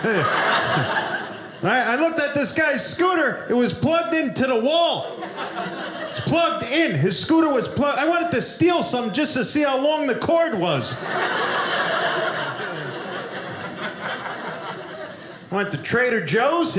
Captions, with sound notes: (audience laughing) Right? I looked at this guy's scooter, it was plugged into the wall. It's plugged in. His scooter was plugged— I wanted to steal something just to see how long the cord was. (audience laughing) I went to Trader Joe's.